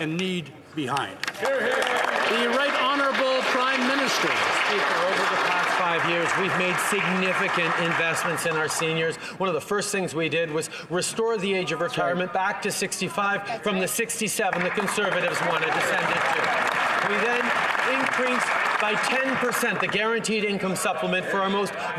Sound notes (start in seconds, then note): 4.3 some Applause